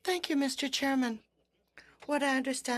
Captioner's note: speaking French